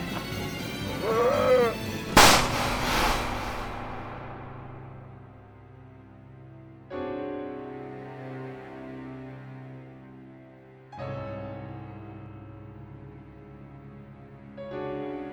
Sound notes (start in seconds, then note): 2.1 gun shot